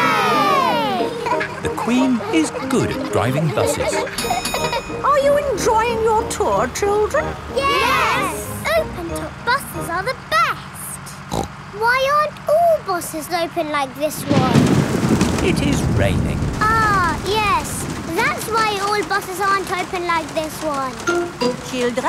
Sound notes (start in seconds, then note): 11.2 snorts; 14.2 thunder crashing